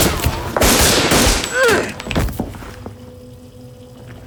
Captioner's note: groaning; water facet running